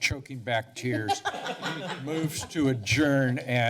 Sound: laughter

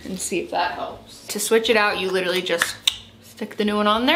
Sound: clicks tongue

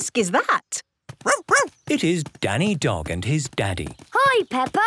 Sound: barking

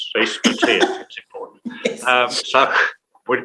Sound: laughs

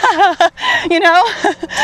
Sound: laughs

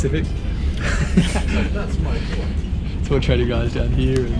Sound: laughs

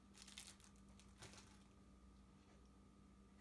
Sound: package crinkles

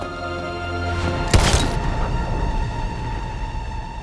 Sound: gunshot echoes

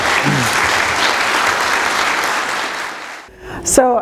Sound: applause

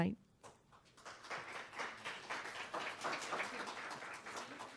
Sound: applause

